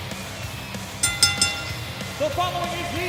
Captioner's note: bell dinging